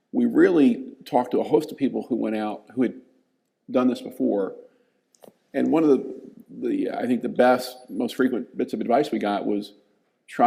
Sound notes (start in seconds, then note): none